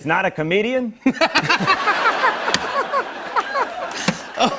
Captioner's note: laughter